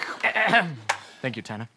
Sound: clears throat

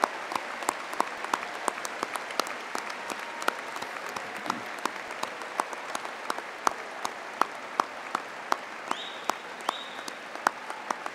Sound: applause

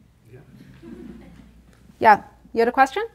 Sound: audience laughing

